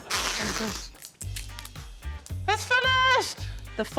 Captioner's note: tape creaks